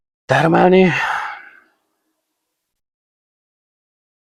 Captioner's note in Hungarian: sóhajtás